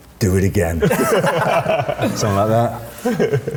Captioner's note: group laughing